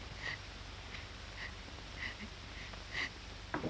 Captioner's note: sniffling